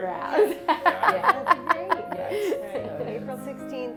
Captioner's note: laughs